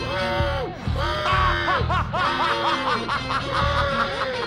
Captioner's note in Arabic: يضحك